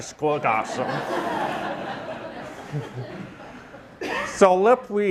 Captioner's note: audience laughing